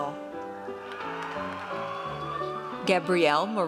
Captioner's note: audience cheers